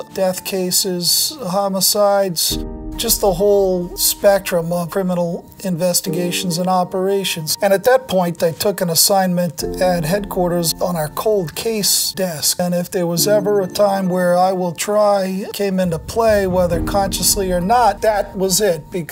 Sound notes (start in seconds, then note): 13.4 electronic beeping